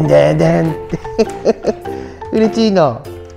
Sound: laughs

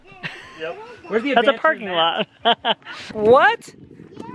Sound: laughs

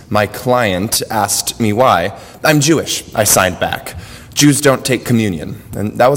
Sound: none

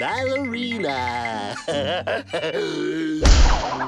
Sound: giggling

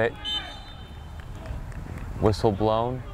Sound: whistle blows

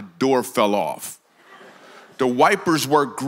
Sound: congregation laughs

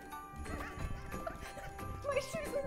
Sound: speaker chuckles

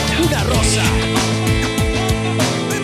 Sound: awwww

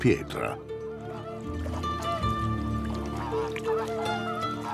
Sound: flamingos honking

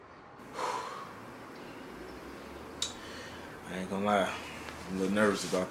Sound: heavy sighing

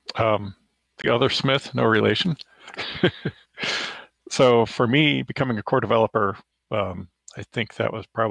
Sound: chuckles

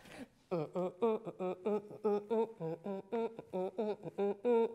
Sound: mouth beat noises

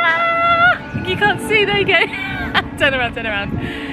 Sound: laughing

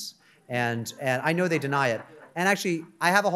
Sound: audience members laughing

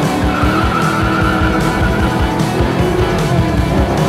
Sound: tires squealing; engines roaring

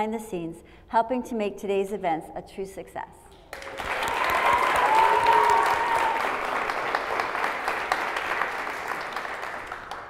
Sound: applause

